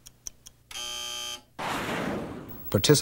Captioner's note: buzzer